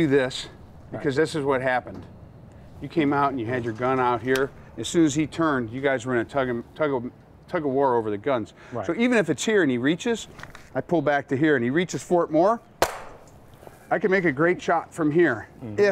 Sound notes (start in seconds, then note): 12.8 gun shot